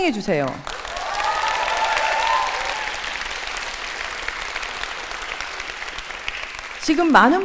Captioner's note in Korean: 박수와 환호